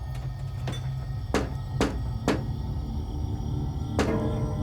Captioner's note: tapping